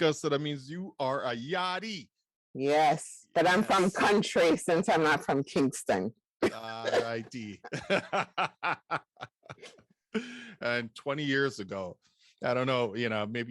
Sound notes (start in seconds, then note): 8.2 laughs